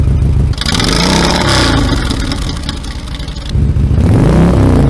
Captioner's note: Monster ovals muffler sound; revving engine stock mufflers; revving engine Monster Ovals mufflers